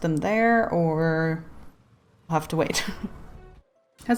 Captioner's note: laughs